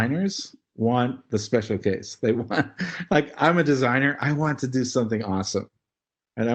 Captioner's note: laugh